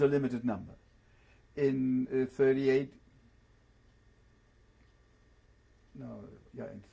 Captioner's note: pauses for 3 seconds